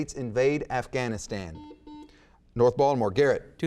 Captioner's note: buzzer beeps